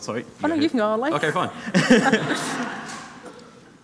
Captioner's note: audience laughing